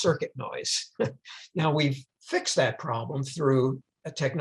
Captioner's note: chuckles